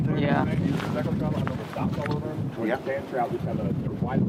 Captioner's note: wind blowing